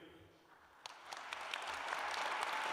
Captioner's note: applause